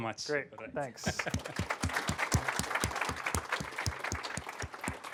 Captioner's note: applause